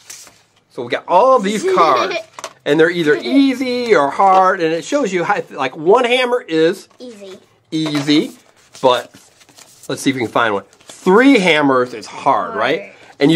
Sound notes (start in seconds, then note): 1.6 laughing